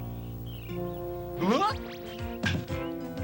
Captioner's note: exclaims